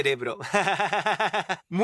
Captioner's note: laughs